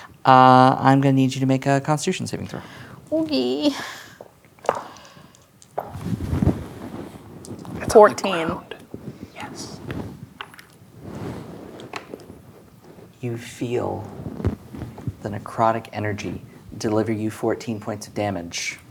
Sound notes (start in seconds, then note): 4.3 dice rolling; 9.4 whispers; 10.3 dice clattering